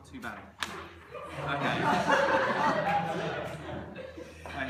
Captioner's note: laughter